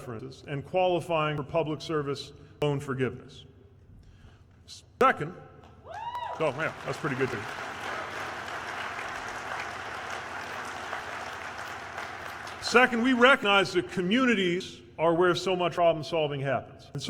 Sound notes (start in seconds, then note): 5.8 cheers; 11.2 applause